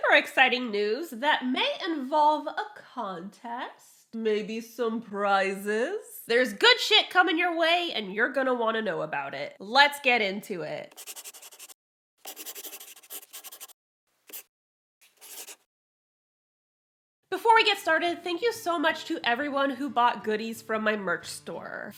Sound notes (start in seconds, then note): 12.2 the sound of a pen scratching. LOGO